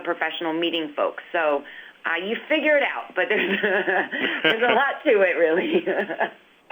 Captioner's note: laughter